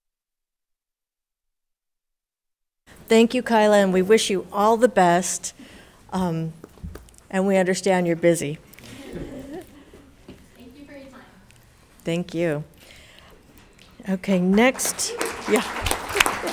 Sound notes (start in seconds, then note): 8.8 people chuckle; 14.5 audience applauds